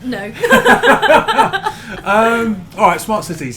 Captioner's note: laughing